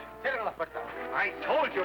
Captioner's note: officer speaking foreign language